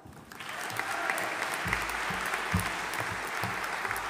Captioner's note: audience applauding